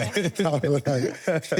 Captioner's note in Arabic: ضحك